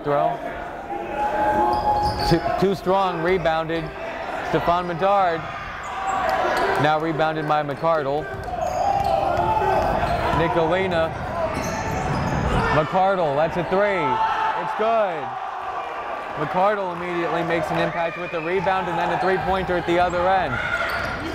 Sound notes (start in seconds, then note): 16.7 cheering; 16.7 clapping